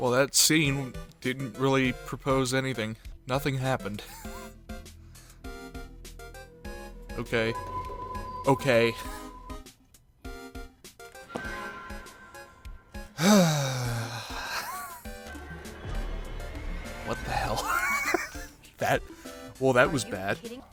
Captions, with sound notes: Well that scene... Didn't really propose anything. Nothing happened. *wheeze* Okay? OKAY? *sigh* What the hell? *wheeze* That- Well that was bad.